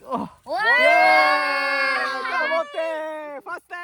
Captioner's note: everyone cheering